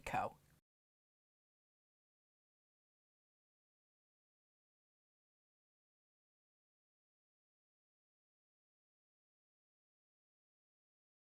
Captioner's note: no Sound Present